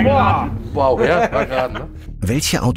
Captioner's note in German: Lachen